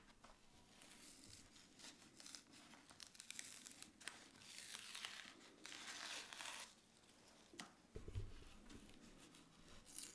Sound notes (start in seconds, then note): 2.1 paper layer crunching